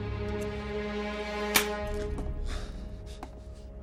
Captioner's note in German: Keuchen